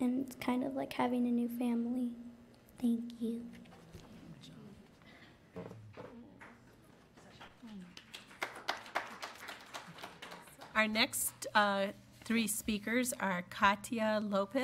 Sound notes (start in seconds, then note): 6.4 applause